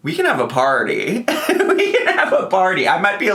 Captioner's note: laughs